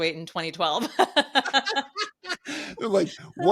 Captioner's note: laughing